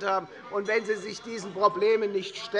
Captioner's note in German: Beifall bei der FDP - Unruhe - Glockenzeichen des Präsidenten